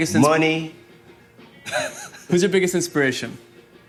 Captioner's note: laughing